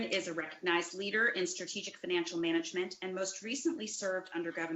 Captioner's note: distorted sound